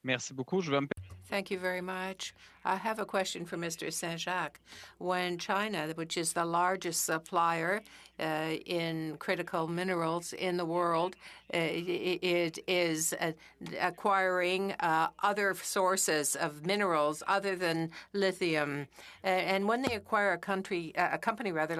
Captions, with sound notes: AMERICA TO QUALIFY. [ Speaking French ] TRANSAT THANK YOU VERY MUCH. I HAVE A QUESTION. WHEN CHINA WHICH IS THE LARGEST SUPPLIER IN CRITICAL MINERALS IN THE WORLD, IS ACQUIRING OTHER